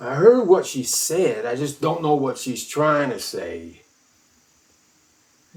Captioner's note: none